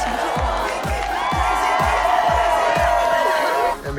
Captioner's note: cheering